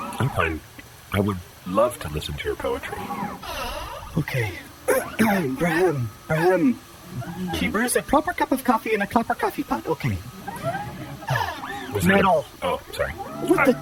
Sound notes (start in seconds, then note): 3.4 deep exhale; 4.8 clears throat; 10.4 exhale